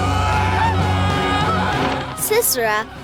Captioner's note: fearful yelling